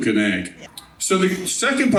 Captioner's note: laughing